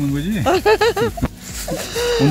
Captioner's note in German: Gelächter